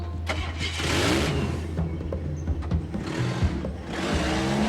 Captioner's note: jeep engine revving